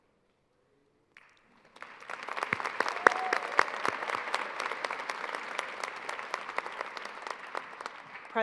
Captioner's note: applause